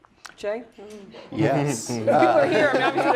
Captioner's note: laugh